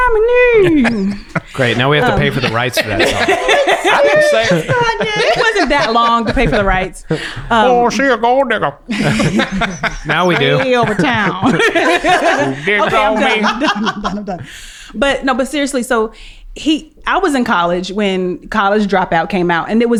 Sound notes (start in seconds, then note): 4.0 everyone laughing; 5.0 laughing; 8.8 laughs